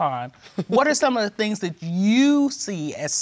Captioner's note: laughs